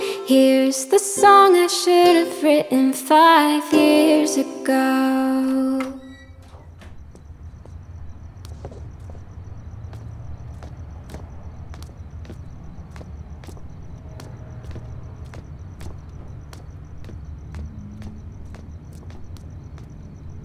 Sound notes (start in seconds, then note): 5.8 lock clicks; 6.5 footsteps